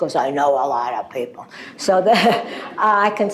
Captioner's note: laughter